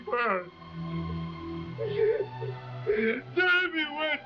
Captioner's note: dramatic forlorn music; Manuel sobbing